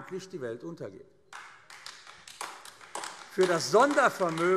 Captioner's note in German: Beifall AfD